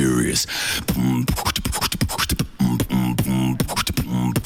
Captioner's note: beatboxing